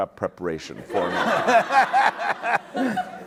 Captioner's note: laughter